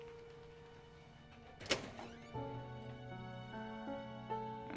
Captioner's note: gentle music continues; door clicks open